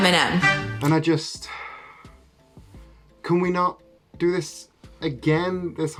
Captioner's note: sigh